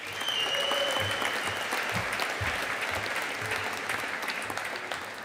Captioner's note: audience applauding